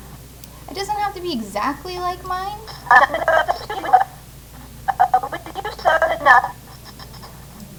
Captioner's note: recording plays in reverse